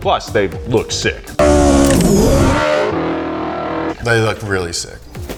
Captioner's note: car revving